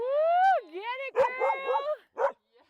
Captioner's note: laugh; cheering